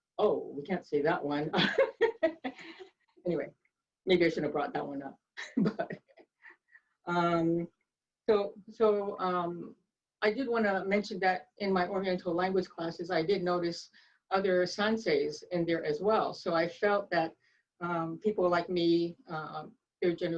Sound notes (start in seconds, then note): 1.6 laughs; 5.4 chuckles